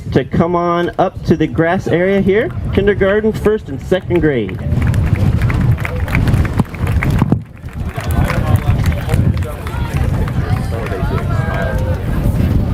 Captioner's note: applause